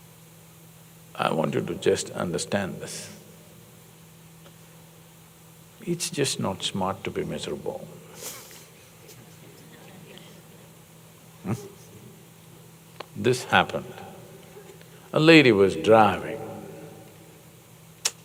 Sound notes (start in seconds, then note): 8.3 laughs